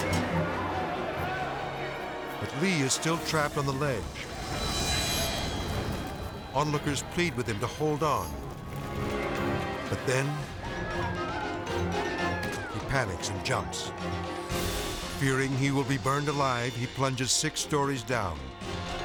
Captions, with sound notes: But Lee is still trapped on the ledge. Onlookers plead with him to hold on. But then, (people screaming) he panics and jumps. Fearing he will be burned alive, he plunges six stories down,